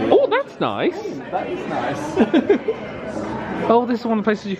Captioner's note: laughs